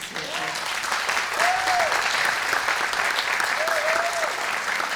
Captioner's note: audience applauds